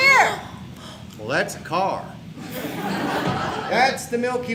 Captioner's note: audience laughs